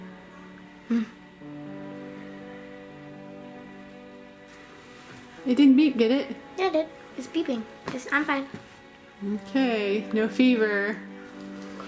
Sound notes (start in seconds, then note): 4.7 thermometer beeping